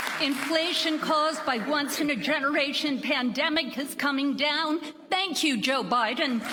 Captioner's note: applause